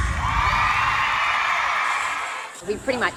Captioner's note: audience cheering and clapping